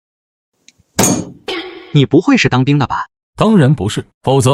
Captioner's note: snorts